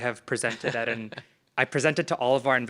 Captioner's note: Ali chuckling